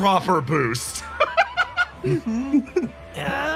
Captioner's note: laugh